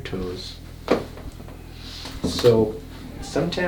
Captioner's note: cracking sound